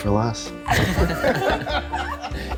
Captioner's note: people laughing